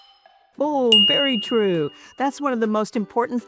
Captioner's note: bell dings